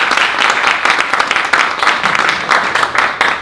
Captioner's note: applause